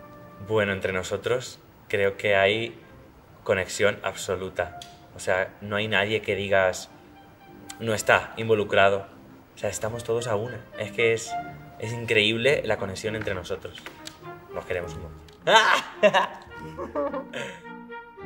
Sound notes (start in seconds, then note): 15.4 laughs